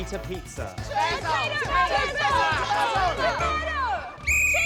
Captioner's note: contestants all shout; whistle trills, cheering, applause